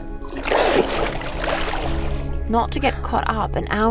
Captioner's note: water burbling